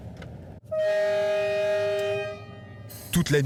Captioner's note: train horn blaring